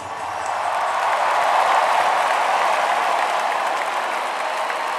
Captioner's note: cheering